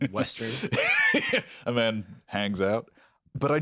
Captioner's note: laughs